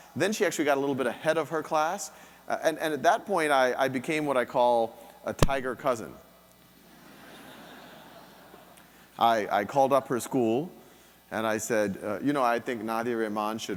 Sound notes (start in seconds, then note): 7.0 audience laughing